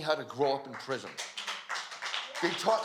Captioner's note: applause